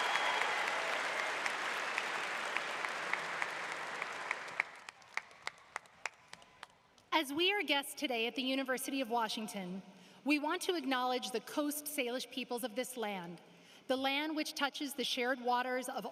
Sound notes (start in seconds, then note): 0.0 applause